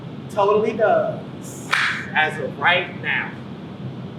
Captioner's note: claps